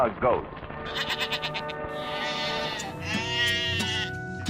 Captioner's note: goat bleats